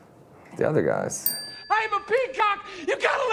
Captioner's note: bell rings